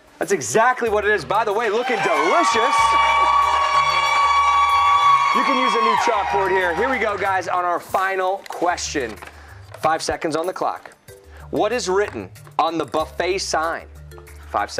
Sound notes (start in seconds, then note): 1.6 cheers and applause